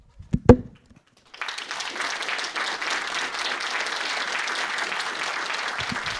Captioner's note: audience applauding